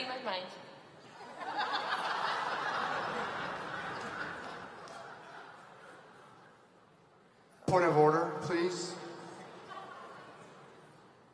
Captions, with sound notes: >> Alyssa Dahlke Metropolitan Synod, I'd like to call for prayer prior to the vote. >> You've beat me to it because that's exactly what we're going to do. >> Thank you for reading my mind. [ Laughter ]